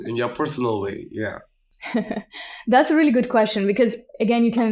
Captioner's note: laughs